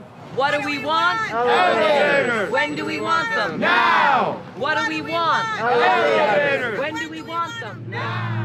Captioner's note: multidão